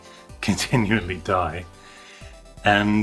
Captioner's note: none